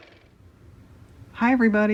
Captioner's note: car motor